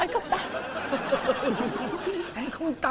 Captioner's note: laughing